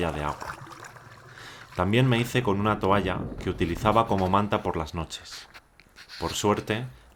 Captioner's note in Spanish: Voz en off